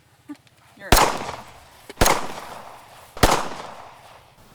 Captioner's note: gunshots boom